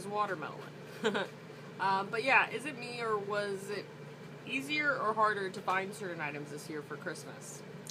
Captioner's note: laughter